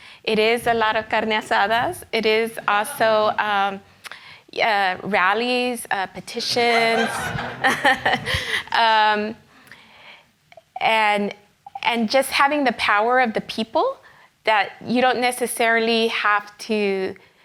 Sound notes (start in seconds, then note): 0.9 speaks in foreign language; 6.2 laughs; 6.4 audience laughs